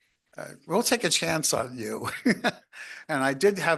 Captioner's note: chuckles